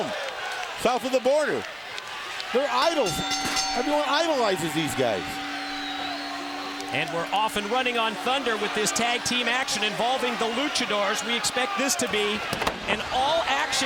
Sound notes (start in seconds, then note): 5.4 bell ringing